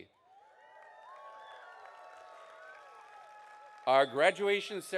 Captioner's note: audience cheering